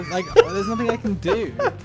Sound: laughing

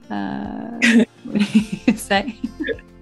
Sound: both laugh

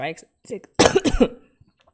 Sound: coughs

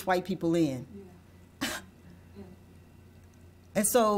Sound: sighs

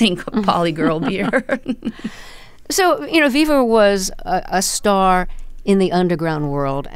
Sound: laughter

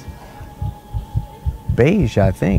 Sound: heart thumping

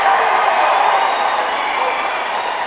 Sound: cheering

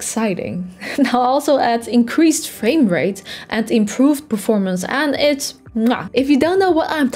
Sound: muah

